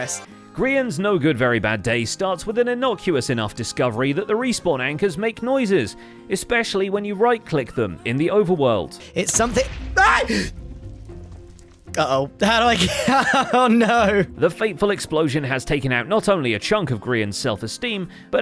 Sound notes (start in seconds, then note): 9.2 yells; 9.3 explosion; 12.4 laughs